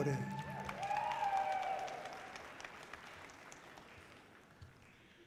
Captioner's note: audience cheering loudly